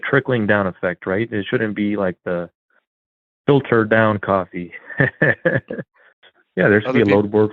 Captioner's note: laughs